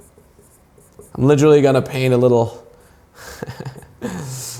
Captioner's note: giggling